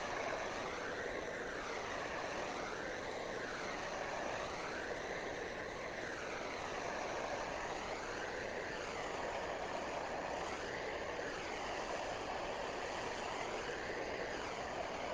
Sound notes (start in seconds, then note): none